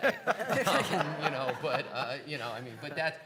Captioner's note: laughing